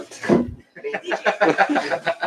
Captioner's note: laughter